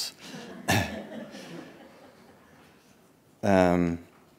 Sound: audience laughing

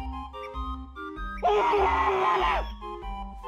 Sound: screams

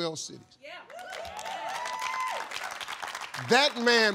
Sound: audience applauds

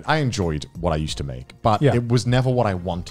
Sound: none

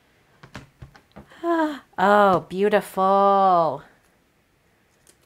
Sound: gasp

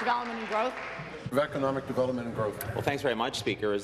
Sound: applause

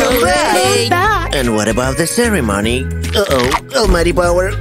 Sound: alarmed exclamations

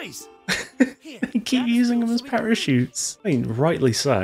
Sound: laughter

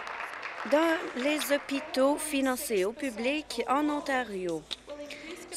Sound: applause

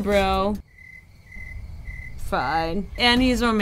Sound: crickets chirping

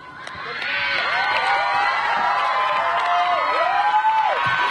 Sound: audience cheering

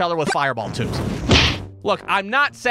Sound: thwack!

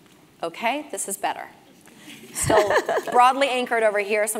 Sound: laugh

